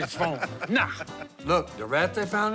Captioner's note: laughs